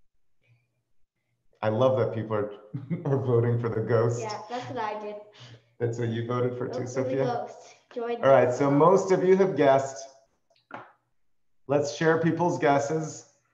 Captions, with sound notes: I love that people are (laughs) voting for the ghost. - Yeah, that's what I did. - That's what you voted for too, Sophia? - Give me ghosts. - All right. So most of you have guessed. Let's share people's guesses.